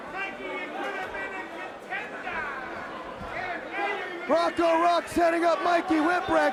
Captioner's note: crowd chatter